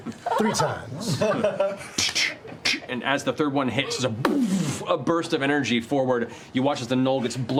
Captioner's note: whipping sounds